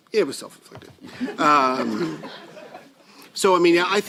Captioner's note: laugther